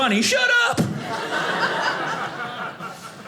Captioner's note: audience laughing